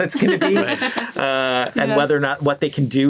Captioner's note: laughs